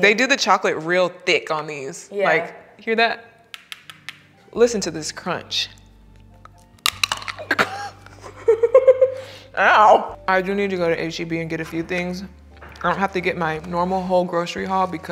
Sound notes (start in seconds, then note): 3.6 knocking chocolates together; 5.6 chocolate crunching; 7.4 laughing